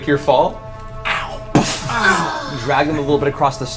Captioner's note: groan